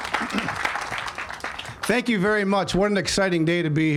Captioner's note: all applauding